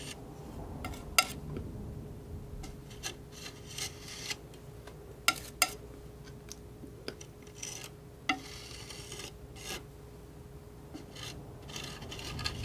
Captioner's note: scratching